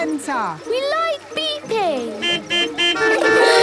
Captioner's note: horns beeping